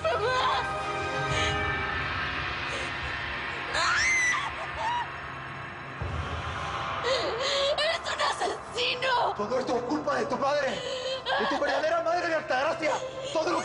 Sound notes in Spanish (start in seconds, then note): 4.0 Gritando; 5.3 Sollozos